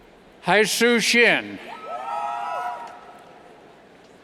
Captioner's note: cheers